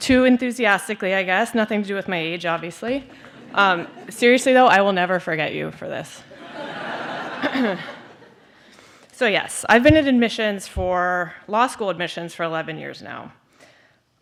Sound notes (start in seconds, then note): 6.3 laughter